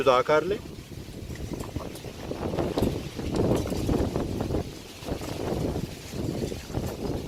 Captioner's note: sound of strong wind